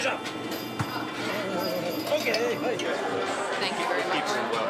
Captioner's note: speaking in foreign language